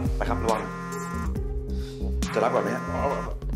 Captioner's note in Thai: เสียงโทรศัพท์สั่น